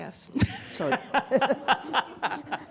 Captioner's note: laughter